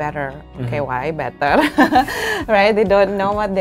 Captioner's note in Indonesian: tertawa